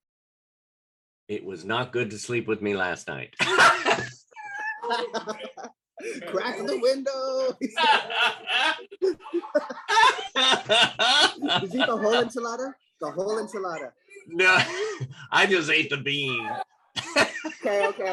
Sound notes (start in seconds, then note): 3.4 laughter; 7.5 laughter